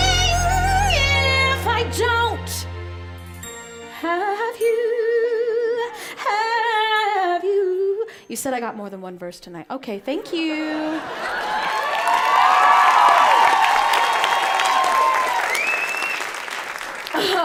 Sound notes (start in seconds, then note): 11.1 audience cheers and applauds